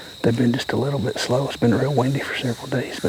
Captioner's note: whispering